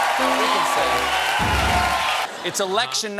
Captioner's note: cheers and applause; piano riff